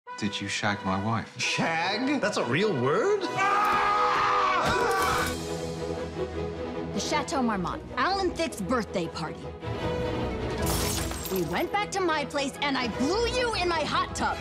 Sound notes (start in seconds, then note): 3.3 screams